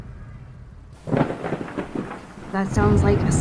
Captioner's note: distorted Thunder Sounds